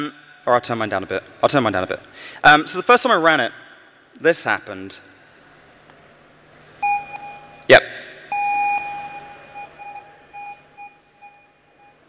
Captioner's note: broken electronic tone